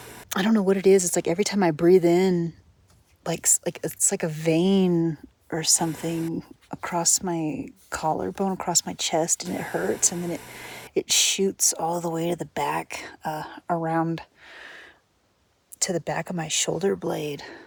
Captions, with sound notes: I don't know what it is, it's like, every time I breathe in like- it- it's like a vein or something [static] across my collar bone- across my chest. and it hurts. And then it it shoots all the way to the back uh, around to the back of my shoulder blade.